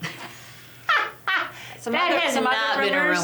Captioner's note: laughs